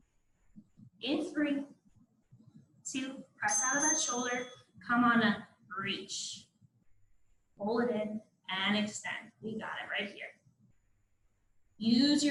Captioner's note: ding, ding